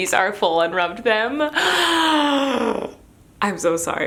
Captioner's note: gasps